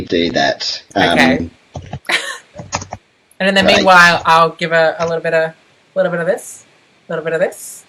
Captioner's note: laughs